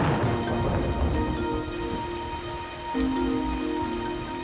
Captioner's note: thunder crashes